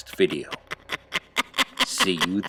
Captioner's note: crazy nun laughs